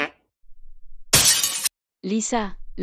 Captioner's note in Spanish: FX - Glass Smash